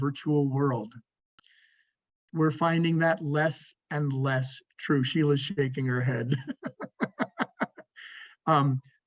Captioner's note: laughs